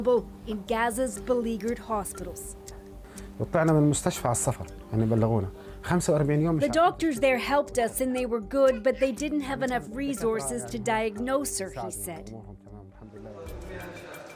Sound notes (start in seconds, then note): 6.1 speaking alternate language